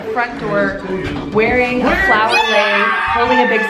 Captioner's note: kids screaming excitedly